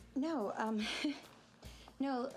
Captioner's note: nervous chuckling